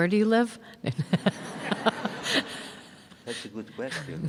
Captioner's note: audience laughing